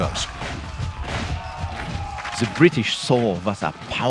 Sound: German accent

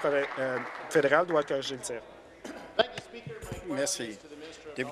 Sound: applause

